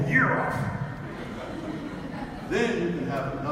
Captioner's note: audience laughs